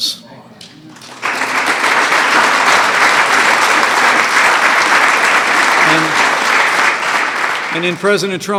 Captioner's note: applause